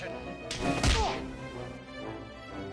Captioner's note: whack-bonk